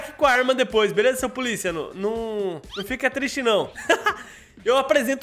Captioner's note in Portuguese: risos